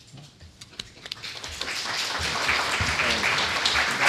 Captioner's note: applause